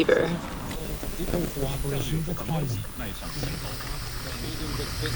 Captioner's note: quietly, male radio voice